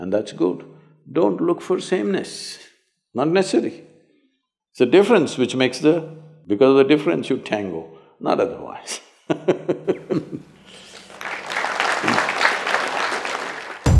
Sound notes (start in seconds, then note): 9.4 laughs; 10.8 applause